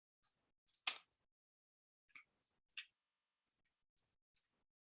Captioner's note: mouse clicking